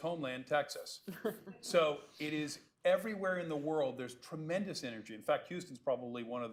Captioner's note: laughter